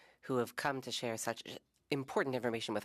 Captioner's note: speaking French